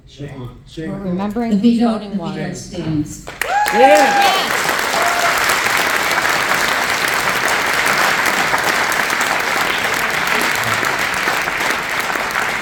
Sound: applause

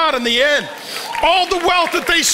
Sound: congregation cheers

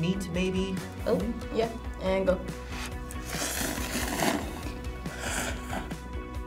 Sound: slurps

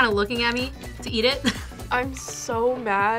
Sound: laughs

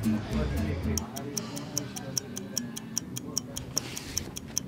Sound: clock ticking

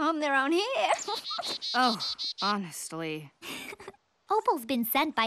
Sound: giggling

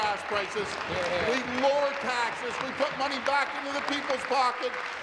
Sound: applause

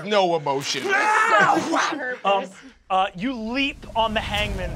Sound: shouting

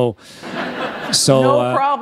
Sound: laughter

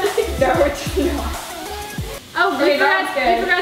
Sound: laughing

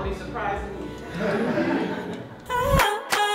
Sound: laughs; soulful thumping beat

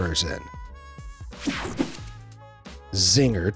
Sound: swooshes

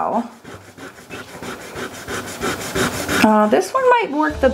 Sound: eraser rubbing

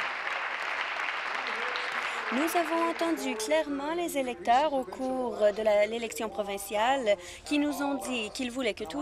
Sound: applause

